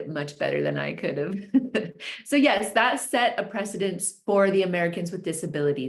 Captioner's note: chuckles